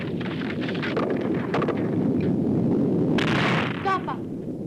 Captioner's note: rocks rumbling; crashing